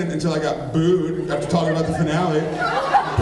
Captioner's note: laughs